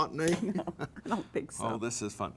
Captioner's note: chuckles